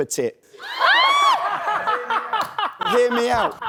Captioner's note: laughs